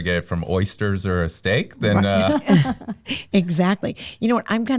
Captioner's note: laughs